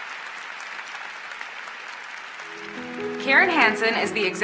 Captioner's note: applause